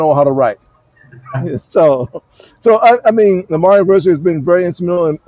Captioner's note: laughs